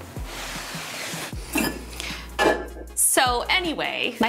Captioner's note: coffee mug clatters